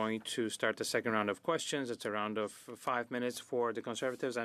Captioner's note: speaking French